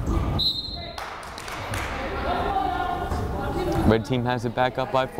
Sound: whistle blows

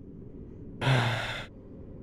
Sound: sigh

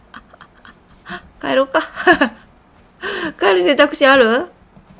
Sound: laughs

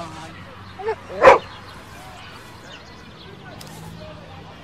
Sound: dog barks

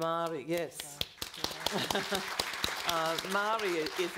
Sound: all clapping

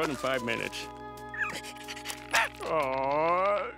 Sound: whining

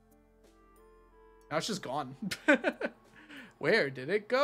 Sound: laughs

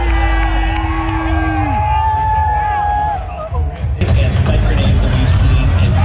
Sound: people clamoring and clapping

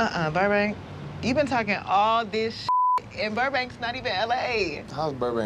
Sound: beep

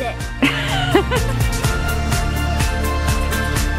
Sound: laughs

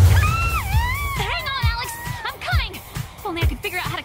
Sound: shouts

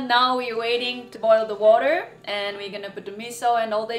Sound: none

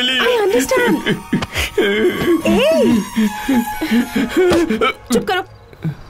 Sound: crying

